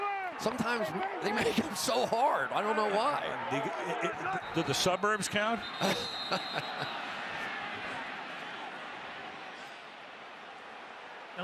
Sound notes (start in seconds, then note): 5.5 whistle